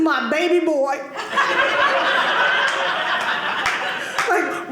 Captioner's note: audience laughing